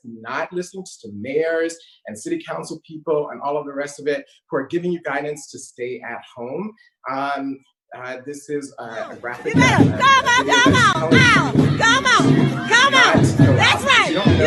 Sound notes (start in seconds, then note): 9.2 drumming; 10.4 yelling